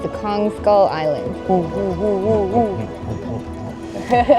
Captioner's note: imitating ape noises